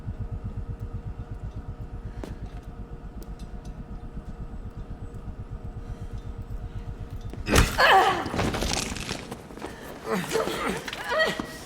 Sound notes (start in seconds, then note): 7.5 both grunt